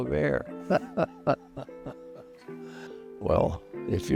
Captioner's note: chuckles